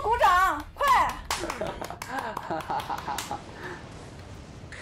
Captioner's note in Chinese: 哈哈哈哈哈